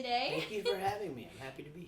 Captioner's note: laughs